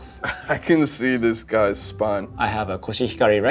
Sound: laughs

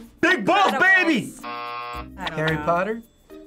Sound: buzzer

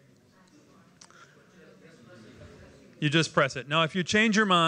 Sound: crowd talking

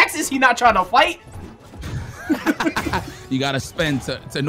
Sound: both Laughing

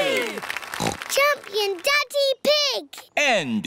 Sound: snorts

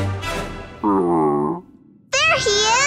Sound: growling

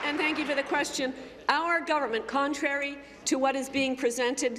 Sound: applause

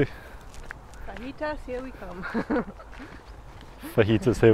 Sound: laugh

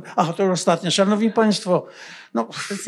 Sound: foreign language

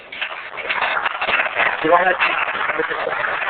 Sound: applause

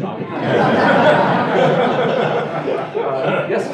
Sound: laughter

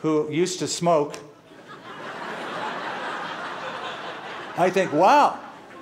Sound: laughter

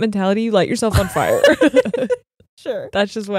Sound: both laughing

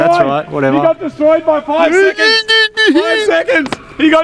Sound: continues to celebrate

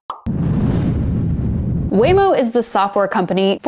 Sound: whooshing

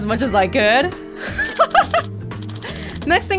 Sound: laughs

